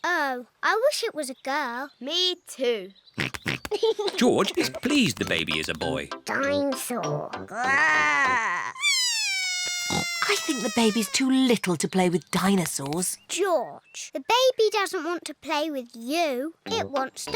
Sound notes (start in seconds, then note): 3.5 snorts and giggles; 7.5 bawls